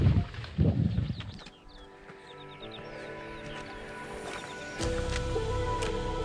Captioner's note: wind rustling; footsteps crunching; fantastical music